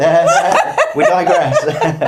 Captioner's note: speaker laughing